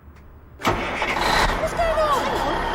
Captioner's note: engine starts